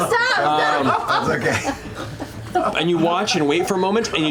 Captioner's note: laughter